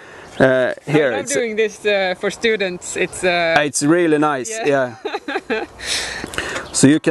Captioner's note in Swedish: skrattar